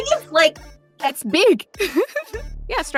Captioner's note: giggles